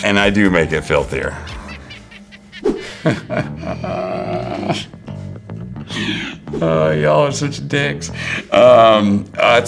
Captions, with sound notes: And I do make it filthier. (cartoony laughter) (Jeffrey laughs) Oh, y'all are such dicks.